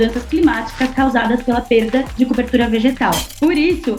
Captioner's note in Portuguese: Gelo estalando